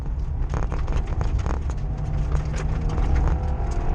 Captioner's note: SFX: tires scrambling for traction